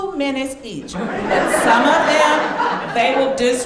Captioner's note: audience laughing